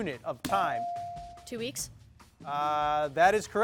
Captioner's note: bell dings